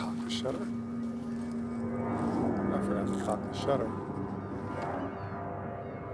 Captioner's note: airplane engine roaring